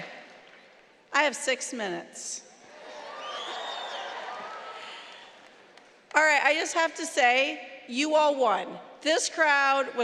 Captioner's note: applause; cheering